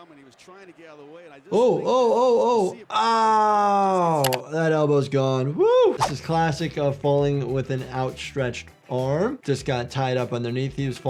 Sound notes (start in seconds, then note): 4.2 video clicks; 6.0 audio whooshes